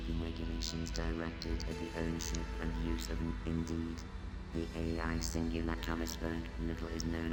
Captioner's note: robot continues to drone on and on